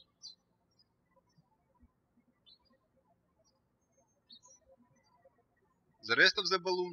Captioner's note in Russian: птички щебечут